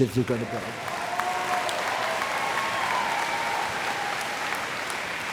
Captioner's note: applause and cheers